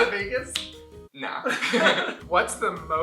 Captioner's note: laughter